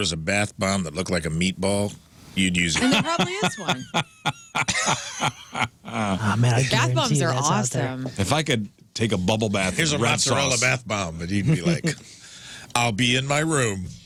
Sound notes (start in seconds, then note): 6.2 laughter